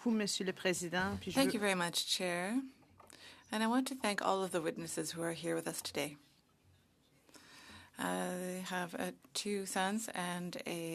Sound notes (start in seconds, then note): 4.8 speaking French